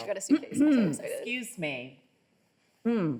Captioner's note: clears throat